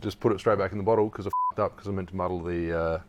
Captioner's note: beep